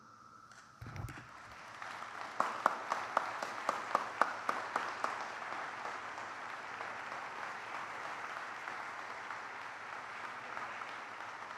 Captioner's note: applause